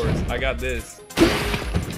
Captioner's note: wood shattering